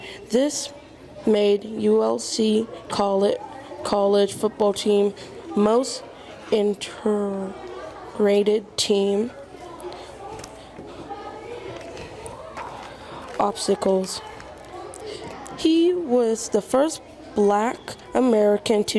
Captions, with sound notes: This made ULC call it College Football Team. Most interrated team. (students chattering) Obstacles. He was the first Black American